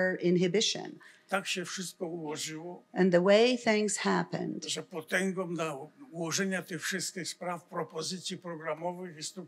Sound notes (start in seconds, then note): 0.5 foreign language; 4.8 foreign language